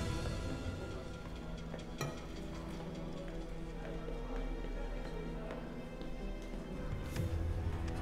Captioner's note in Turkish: Ayak sesleri